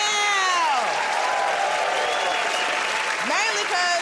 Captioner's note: cheers and applause